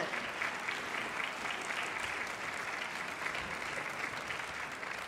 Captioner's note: audience applauding